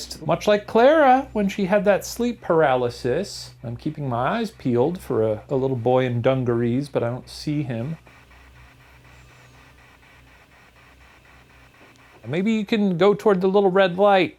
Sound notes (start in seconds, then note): none